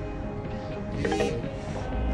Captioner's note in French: phone pings